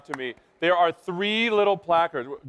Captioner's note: applause